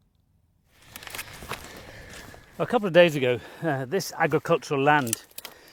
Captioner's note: footsteps on gravel